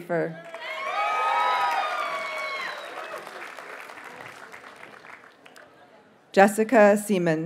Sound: audience cheers and applauds

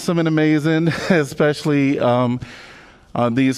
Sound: laughter

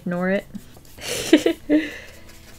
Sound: laughs

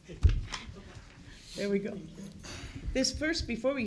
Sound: laughter

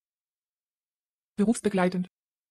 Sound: fast Pronunciation

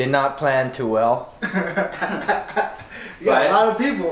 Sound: laughing

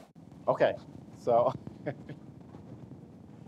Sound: chuckles

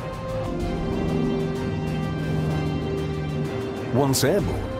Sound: airplane engine roars

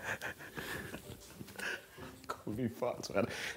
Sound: men laugh

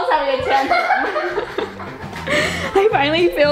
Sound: both laughing

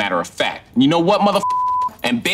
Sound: beep

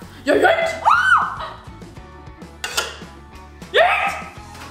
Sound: screaming

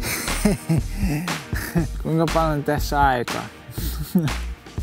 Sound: laughter

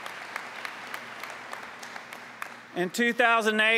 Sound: applause

